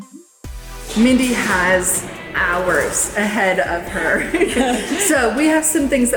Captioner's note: laughs